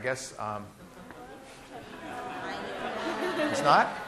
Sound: classroom chatter

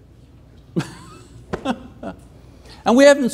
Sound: scoffing

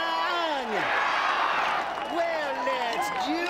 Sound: cheering

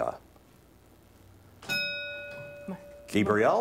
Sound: ding

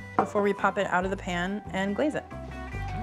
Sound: none

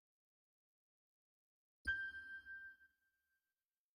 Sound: ding

